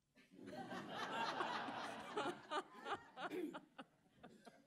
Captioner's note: audience laughing